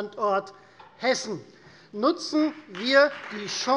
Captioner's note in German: Beifall Freie Demokraten